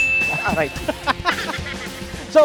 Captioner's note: laughs